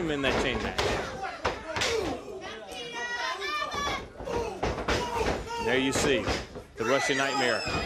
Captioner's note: crowd chatter